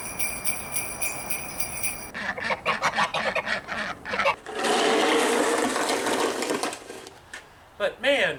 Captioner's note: ducks quacking